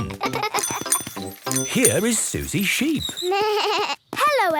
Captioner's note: bike bell; bleating